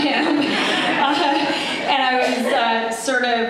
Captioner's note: laughter